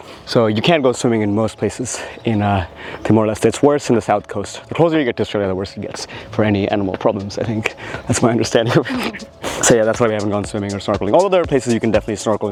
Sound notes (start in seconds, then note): 8.5 laughs